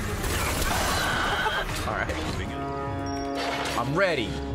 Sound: laughs

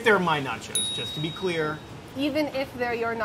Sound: buzzer pinging

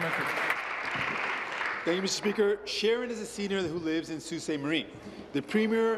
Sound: applause

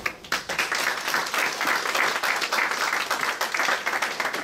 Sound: applause

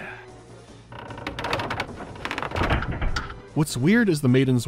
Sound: creaking of the door

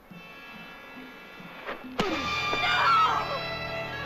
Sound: screaming

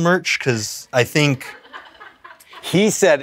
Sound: crew cracking up

